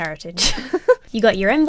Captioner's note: laughs